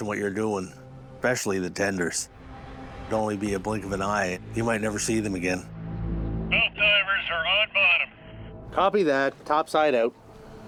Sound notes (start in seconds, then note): 5.6 radio transmission